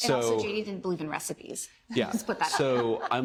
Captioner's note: laughter